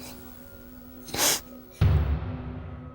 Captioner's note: sniffle